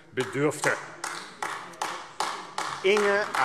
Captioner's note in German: Beifall AfD